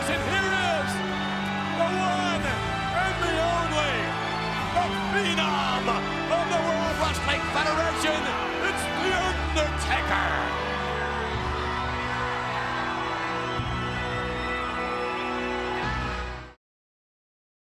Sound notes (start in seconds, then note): 10.8 crowd cheering; 10.8 dramatic music